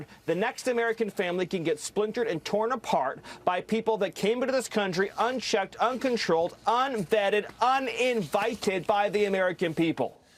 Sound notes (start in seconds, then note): none